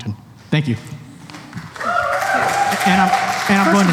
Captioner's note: cheering; applause